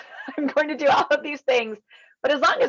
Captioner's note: laughing